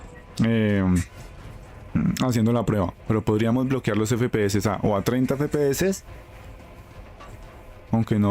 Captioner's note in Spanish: carraspeo